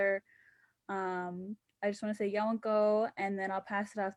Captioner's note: speaking indigenous language